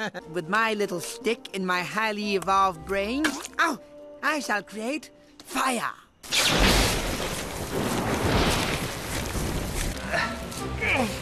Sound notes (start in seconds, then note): 6.2 lightning; 6.4 thunder